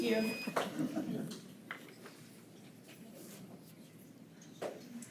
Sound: board members chuckle

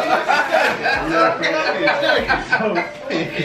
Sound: laughing

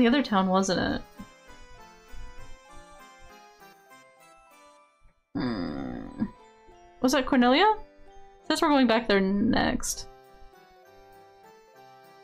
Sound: grumble

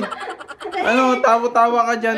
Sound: laughs

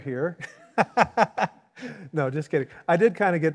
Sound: laughs

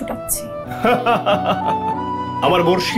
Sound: laughs

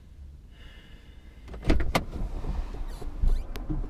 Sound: sighs

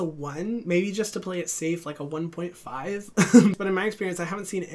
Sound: chuckles

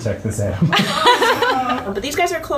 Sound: everyone laughs

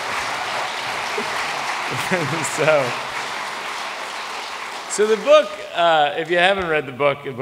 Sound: applause

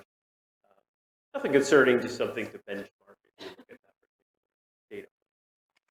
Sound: audio cuts out

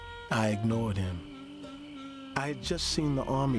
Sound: voiceover

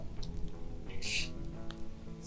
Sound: scoffs

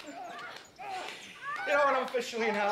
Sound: Donnie and Janine moaning

